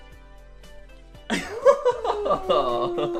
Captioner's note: laughs